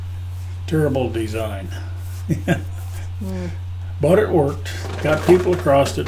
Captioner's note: chuckles